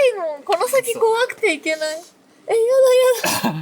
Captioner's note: laughs